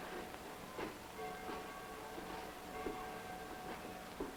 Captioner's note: bell tolling distantly